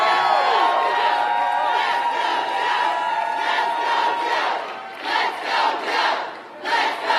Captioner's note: applause